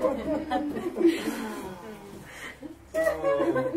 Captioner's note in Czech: Ticho, smích